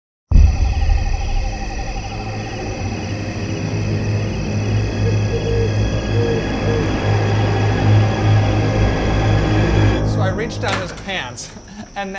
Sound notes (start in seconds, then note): 0.2 ominous music; 5.3 owl hoots